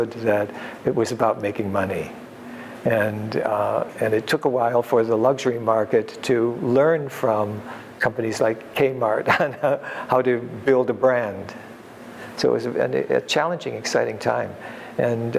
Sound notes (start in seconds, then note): 9.2 laughs